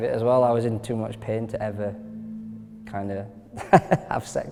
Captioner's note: laughing